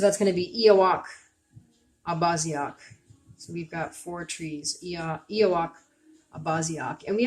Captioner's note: speaking Abenaki